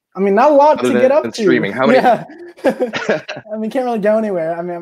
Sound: laughing

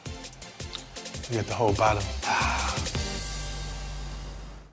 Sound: exhales

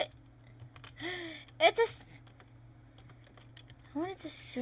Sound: le gasp

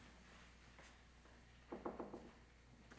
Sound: knocking on door

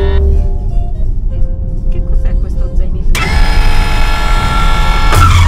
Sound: buzzer; upbeat music

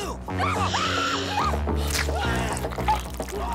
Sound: screaming; driver screaming; flesh ripping

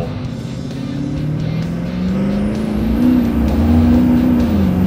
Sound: engine roars

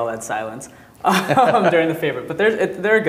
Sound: laughing

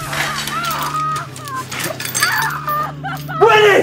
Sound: screams

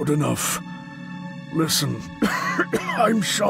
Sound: cough

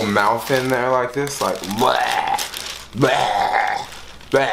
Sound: retches

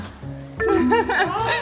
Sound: sad beeping sound; laughs

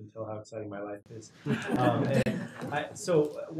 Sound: laugh

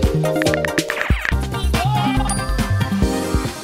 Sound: buoyant music; keyboard clacking; bell chimes

